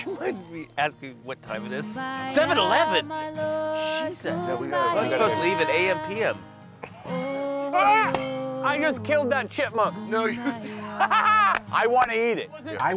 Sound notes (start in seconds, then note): 8.0 grunts; 10.2 laughs